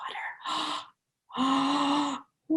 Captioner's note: inhales; gasps